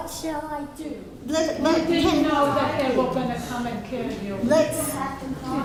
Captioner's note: audience talking to each other